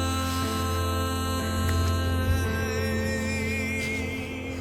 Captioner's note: Asher gasping